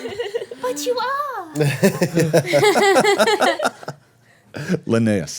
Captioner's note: everyone laughing